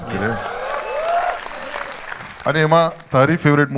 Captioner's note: crowd applauding